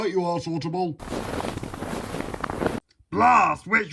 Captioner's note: footsteps through snow